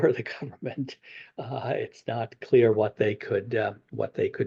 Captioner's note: laughs